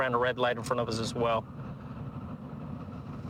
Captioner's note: warning siren